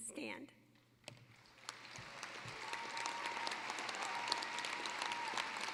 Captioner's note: cheering, applause